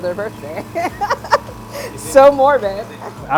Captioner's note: laughs